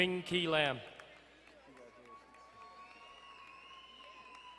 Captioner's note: crowd cheering and applauding; crowd cheering